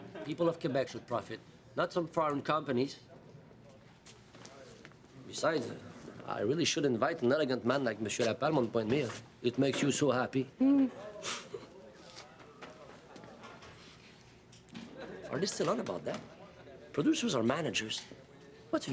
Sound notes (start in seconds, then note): 10.6 Rita laughs